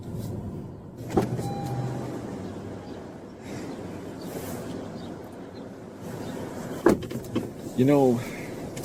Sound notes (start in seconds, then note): 1.0 car door clicks open then closed